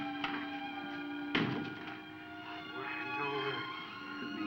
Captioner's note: door latching